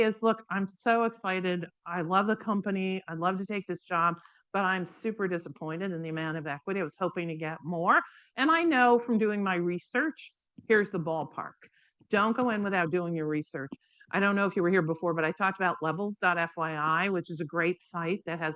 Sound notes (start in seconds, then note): none